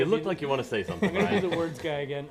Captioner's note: laughter